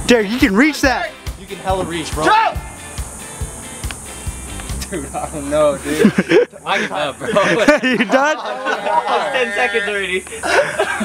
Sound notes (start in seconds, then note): 5.8 laughs; 5.8 chuckles